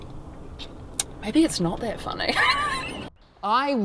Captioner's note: laughs